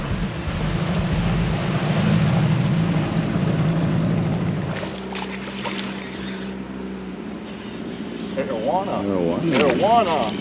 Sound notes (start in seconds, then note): 1.7 boat engine running; 4.6 fish splashing; 9.0 reel cranking